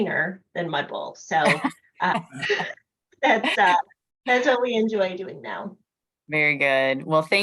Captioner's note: laughter